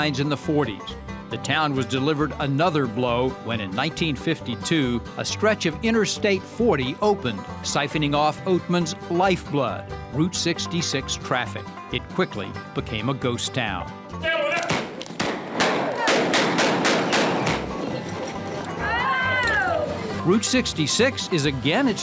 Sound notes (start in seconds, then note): 16.1 guns banging